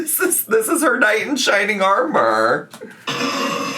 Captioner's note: laughing